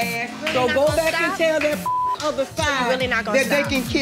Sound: beep

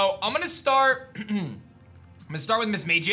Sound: clears throat

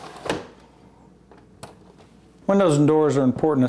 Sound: window shuts and bolts

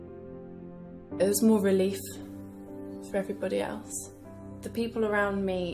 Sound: voiceover

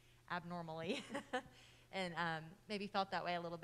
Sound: laughing

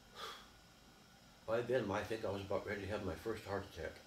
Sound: exhaling

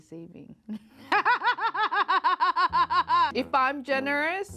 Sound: laughing hysterically

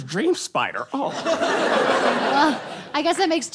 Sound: audience laughs

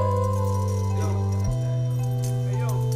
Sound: chain rattling

